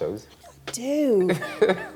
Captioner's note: laughs